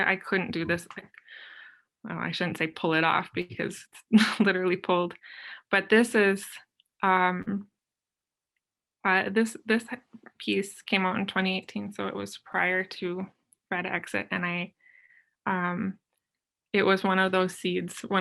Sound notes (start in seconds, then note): 3.9 chuckles